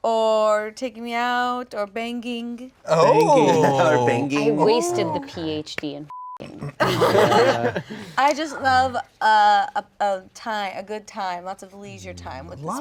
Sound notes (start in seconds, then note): 6.1 beep; 6.6 laughing